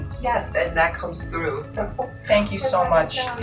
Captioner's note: chuckles